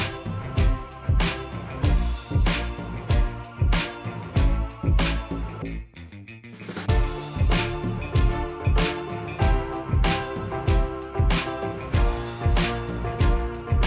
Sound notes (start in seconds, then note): none